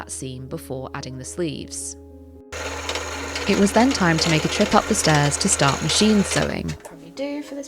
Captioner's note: bobbin winding